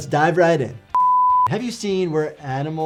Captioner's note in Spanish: suena un pitido